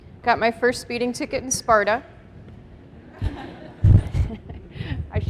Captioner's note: laughter